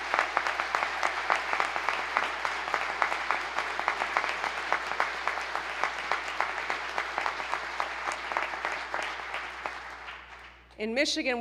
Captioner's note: applause